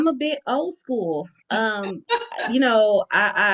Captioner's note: laughing